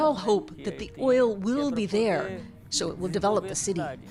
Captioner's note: speaking alternate language